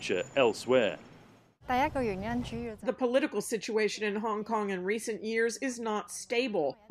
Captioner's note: through translator